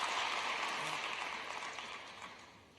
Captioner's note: applause